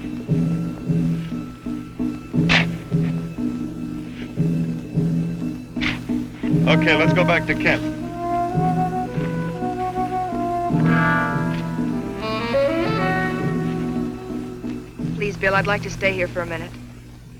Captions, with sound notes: (upbeat music) (shovel fetching) Okay, let's go back to camp. (gentle music) - Please Bill I'd like to stay here for a minute.